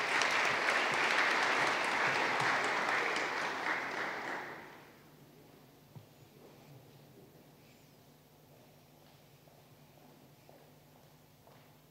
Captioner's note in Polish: oklaski